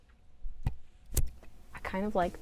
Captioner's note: sticky noise